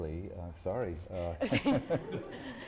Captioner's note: laughter